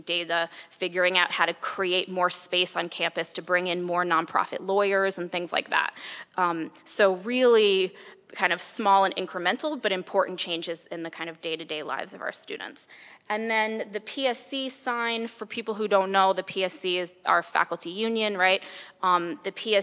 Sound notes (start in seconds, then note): none